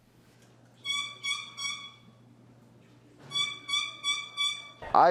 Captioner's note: turkey calling sounds